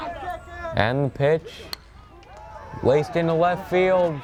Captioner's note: bat cracks